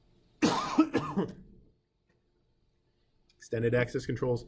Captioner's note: coughing